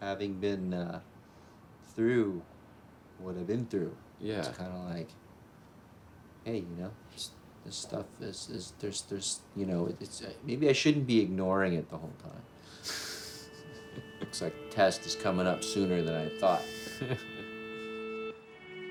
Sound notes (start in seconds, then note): 13.6 laughter